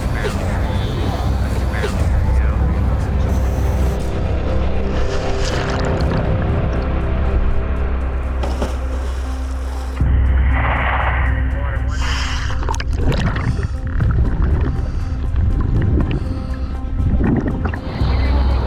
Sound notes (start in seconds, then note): 5.2 water splashing; 12.1 bubbles bubbling